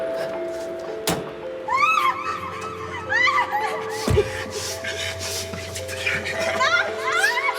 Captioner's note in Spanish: Portazo; Gritos